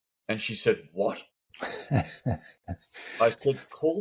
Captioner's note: laughs